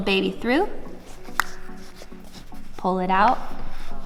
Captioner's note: clicks tongue